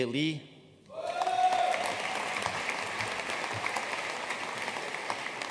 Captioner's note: audience cheering and applauding